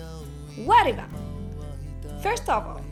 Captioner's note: foreign language